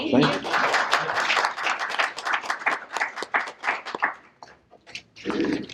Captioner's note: applause